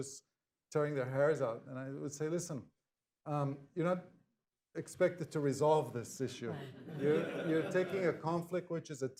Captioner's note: laughter